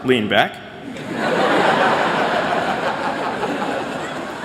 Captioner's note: laughter